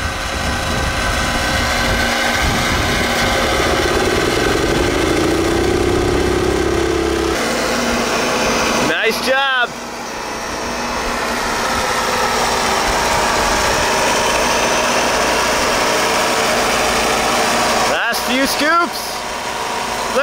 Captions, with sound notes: (motor rumbling) (machines humming) Nice job. Last few scoops.